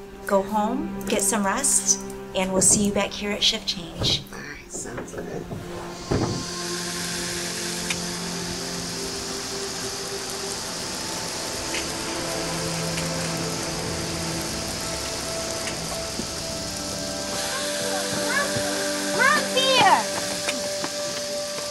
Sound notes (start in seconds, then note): 6.0 water spraying; 11.2 vehicle humming